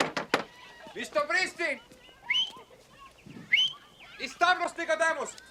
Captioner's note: whistling; speaking spanish